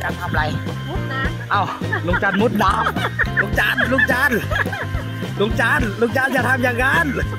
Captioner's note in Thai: เสียงหัวเราะ